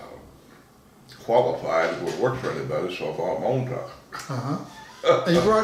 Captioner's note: laughs